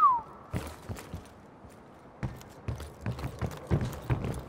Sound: whistles

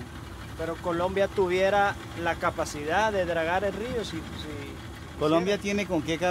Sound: speaking in foreign language

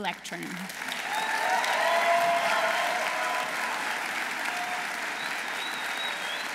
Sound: audience applauding; audience cheering

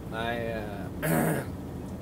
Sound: clears throat

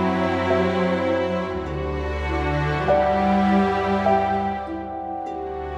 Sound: none

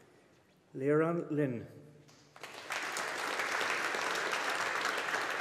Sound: audience applauding

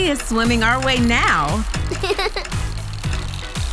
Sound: laughing

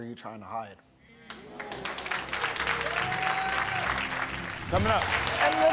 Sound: audience clapping

